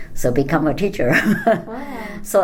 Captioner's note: laughs